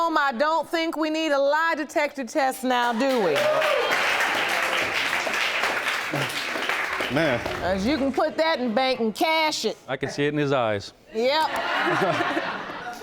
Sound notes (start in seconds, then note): 2.8 audience clapping; 3.4 audience exclaiming; 11.8 laughing